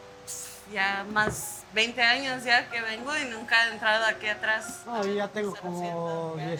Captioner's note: foreign language